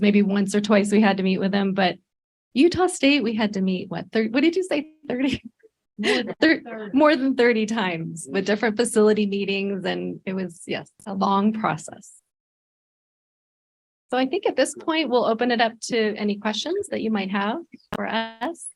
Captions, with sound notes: it was maybe once or twice we had to meet with them, but Utah State, we had to meet. What did you say? 30? [laughs] More than 30 times with different facility meetings. And it was a long process. So I think at this point we'll open up to any questions that you might have for us.